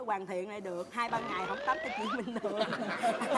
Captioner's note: laughter